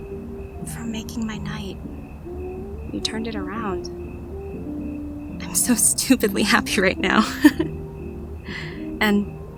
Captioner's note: sweet laugh